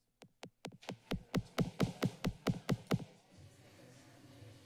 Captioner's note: silence; mic tapping; background chatter